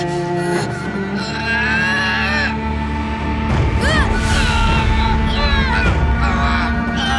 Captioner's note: groaning